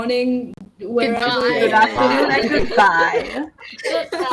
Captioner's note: laughing